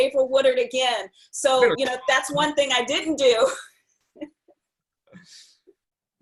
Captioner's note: laughs